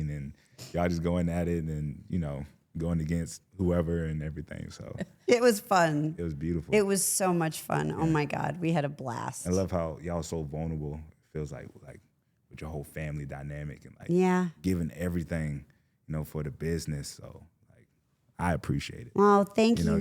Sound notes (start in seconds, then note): 4.2 chuckling